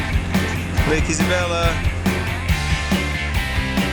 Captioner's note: voiceover